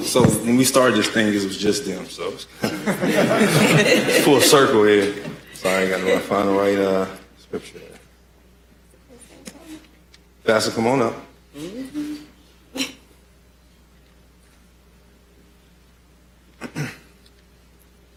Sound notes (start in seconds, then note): 8.7 laughter